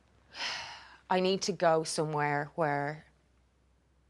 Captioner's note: sighs